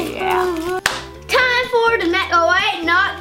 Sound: claps

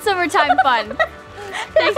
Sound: laugh

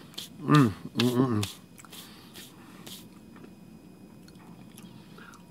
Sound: hands dusting off lightly

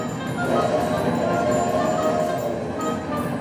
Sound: train honking; tense dramatic music

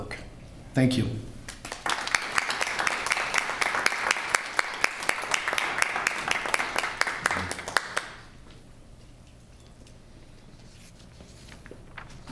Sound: applause

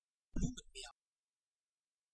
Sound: fast Pronunciation

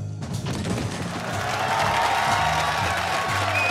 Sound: cheers and applause

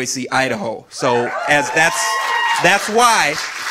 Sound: audience cheering

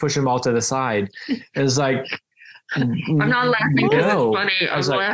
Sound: laughs

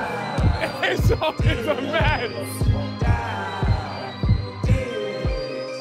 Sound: laughing

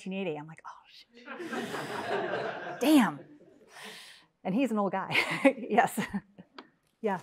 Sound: laugh

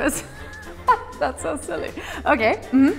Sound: laughing

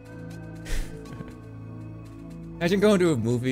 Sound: chuckles

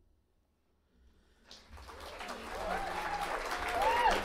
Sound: audience applauding

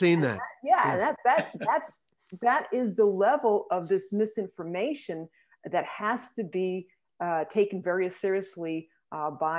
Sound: laughter

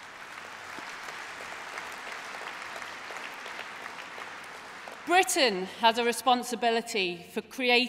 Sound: applause

